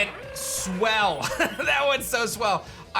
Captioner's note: chuckles